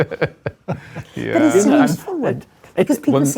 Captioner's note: laughter